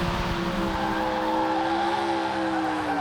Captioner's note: tires screeching